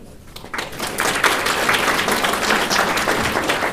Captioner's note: applause